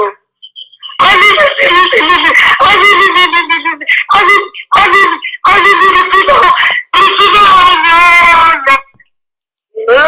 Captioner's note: ululating